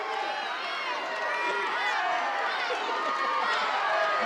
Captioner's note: crowd shouting